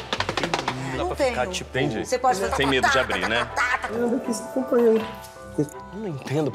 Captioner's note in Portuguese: falatório